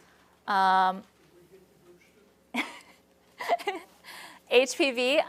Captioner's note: laughs